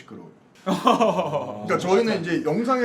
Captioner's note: laughing